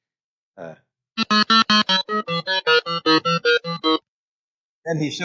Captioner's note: model resumes beeping